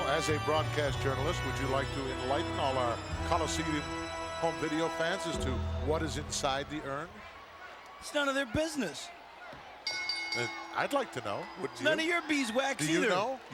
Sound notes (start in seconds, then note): 9.8 bell rings